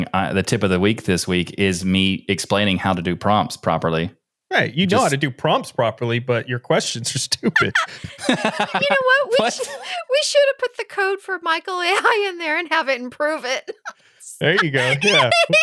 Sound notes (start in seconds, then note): 7.0 laughing